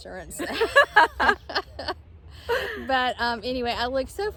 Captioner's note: both laughing